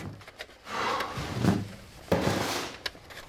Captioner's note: hawk sighs